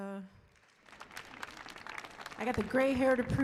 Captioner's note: audience applauds